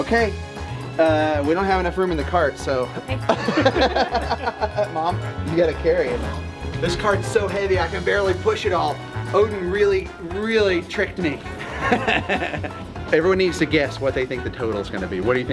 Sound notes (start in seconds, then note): 3.2 everyone laughs; 11.5 laughs